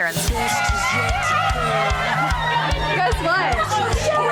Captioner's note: upbeat music; women cheering